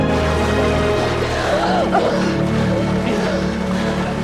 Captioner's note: gasping